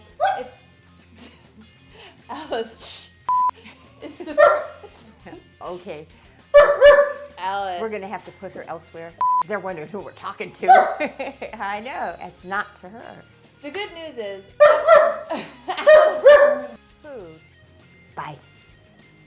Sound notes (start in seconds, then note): 0.1 dog whining; 3.3 tape beeping; 4.2 dog barking; 6.5 dog barking; 10.6 dog barking; 14.6 dog barking